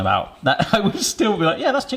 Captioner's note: laughing